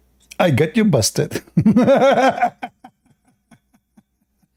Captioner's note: Ketawa